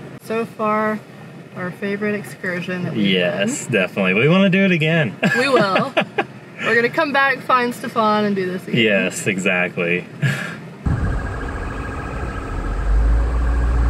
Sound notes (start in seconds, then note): 5.2 laughs